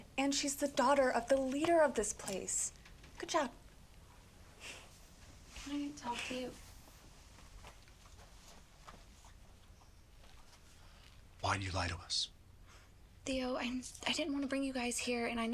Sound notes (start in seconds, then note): none